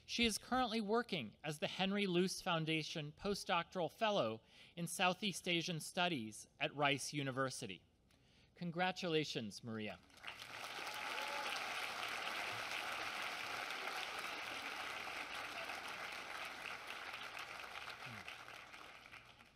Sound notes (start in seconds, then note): 10.0 applause